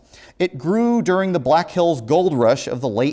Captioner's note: none